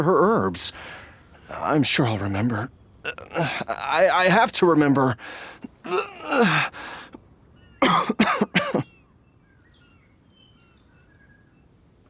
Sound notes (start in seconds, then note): 7.8 cough